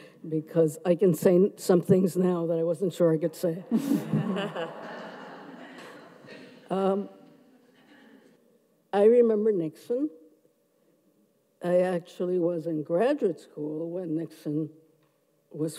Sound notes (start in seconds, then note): 3.7 everyone laughs